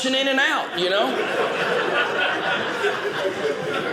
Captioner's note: audience laughing